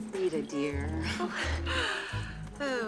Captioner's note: sighs